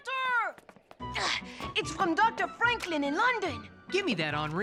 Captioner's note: french accent